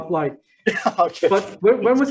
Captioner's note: chuckles